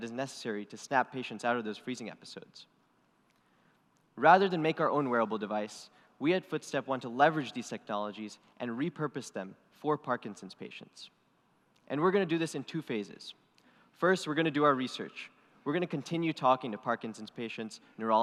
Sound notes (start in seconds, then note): none